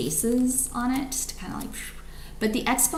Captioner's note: exhales